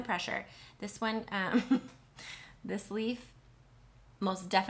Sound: chuckles

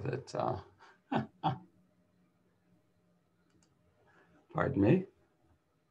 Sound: laughs

